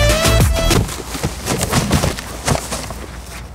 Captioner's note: thuds